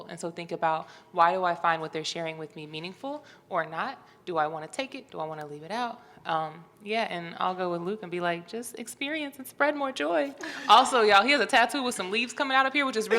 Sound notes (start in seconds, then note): 8.6 high-pitched voice